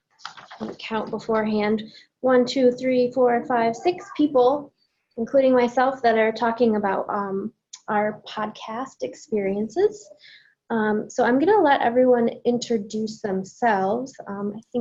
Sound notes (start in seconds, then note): none